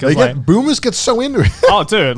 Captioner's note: chuckling